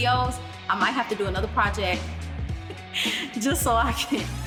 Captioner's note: laughs